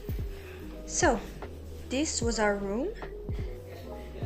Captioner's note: in English